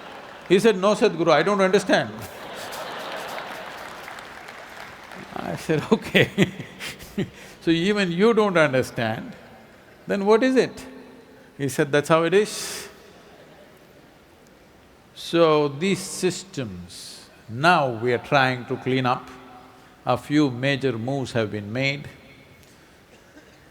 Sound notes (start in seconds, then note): 1.8 laughter/Applause; 5.1 laughs